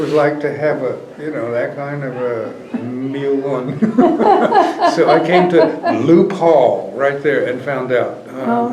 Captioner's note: laughter